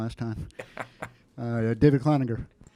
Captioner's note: laughing